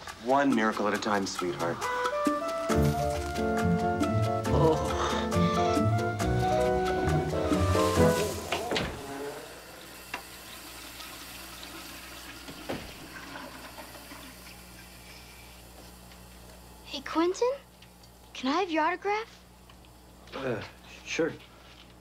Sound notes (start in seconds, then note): 6.2 toilet Flushes